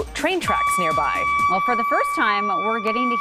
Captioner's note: noise screeches